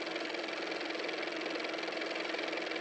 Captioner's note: car motor